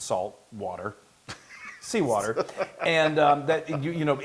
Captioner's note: laugh